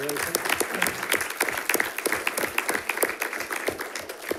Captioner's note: audience applauding